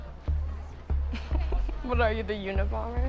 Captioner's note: light music; chuckling